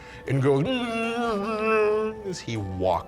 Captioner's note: moans sadly